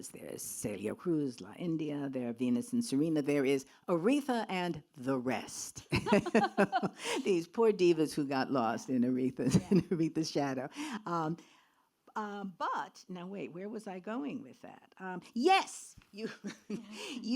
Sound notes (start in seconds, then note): 5.9 laughs; 16.2 laughs